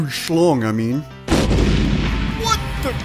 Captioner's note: explosion